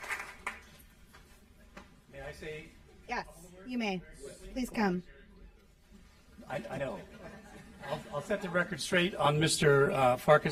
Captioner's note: applause